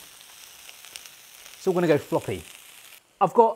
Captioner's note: sizzling